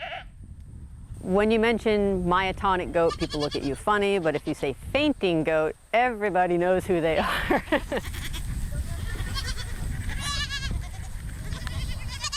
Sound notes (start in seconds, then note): 0.0 goat bleats; 8.8 goats bleat